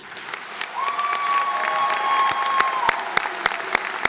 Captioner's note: applause